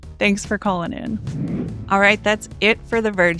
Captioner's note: air whooshing